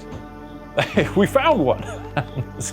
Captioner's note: chuckles